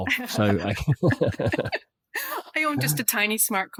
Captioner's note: laugh